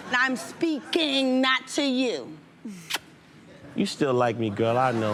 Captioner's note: smacks lips